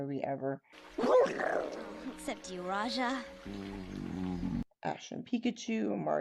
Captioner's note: growls